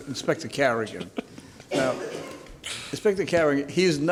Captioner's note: laughter